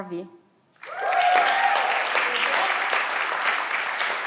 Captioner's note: everyone claps